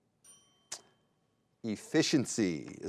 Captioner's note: bell dings